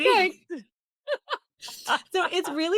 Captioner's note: laughs